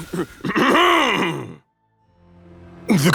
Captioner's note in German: hust